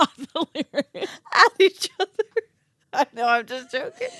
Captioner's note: laughing